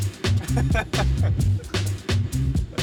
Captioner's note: laughing